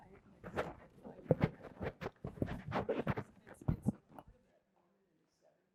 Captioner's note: mic scratching drowns out speech